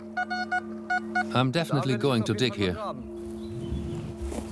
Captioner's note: detector beeps